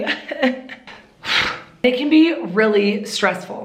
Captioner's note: sighs dramatically